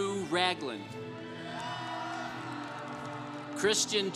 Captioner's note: congregation applauding